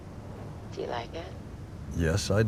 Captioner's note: on phone